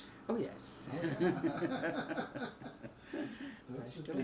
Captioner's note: both laugh